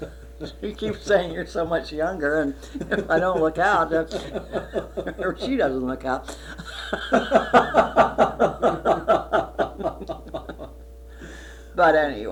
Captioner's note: laughter; laughter